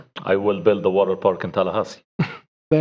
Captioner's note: laughter